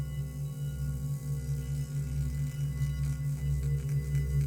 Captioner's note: humming